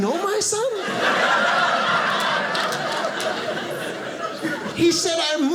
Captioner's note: audience laughing